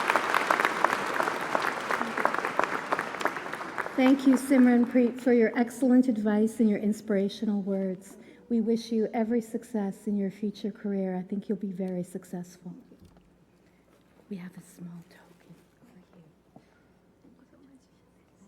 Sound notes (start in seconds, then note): 0.0 applause